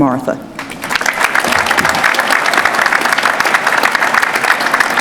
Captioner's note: applause